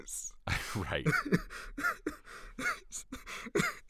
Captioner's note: uncontrollable Laughter